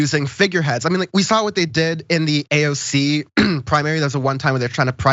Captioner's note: cough